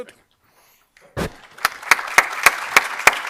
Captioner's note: applause